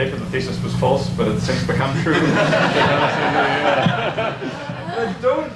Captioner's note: audience laughs